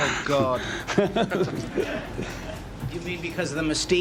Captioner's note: laughs softly